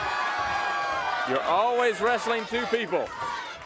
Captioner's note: crowd chatter